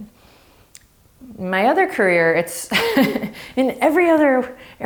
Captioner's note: laughing